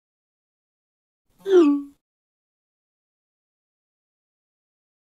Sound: phone chiming

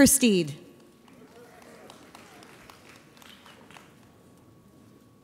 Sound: audience applauds

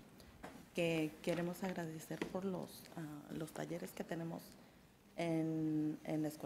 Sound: speaks in a foreign language

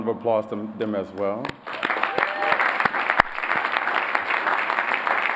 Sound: applause

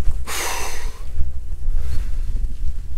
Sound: long exhale

